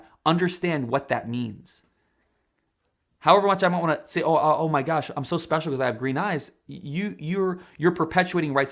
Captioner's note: speaking spanish